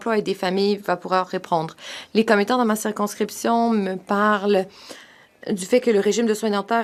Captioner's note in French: voix de l'interprète